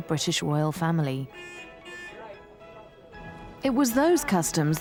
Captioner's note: car honking